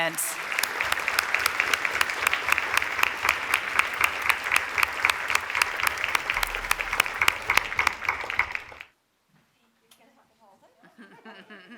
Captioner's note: applause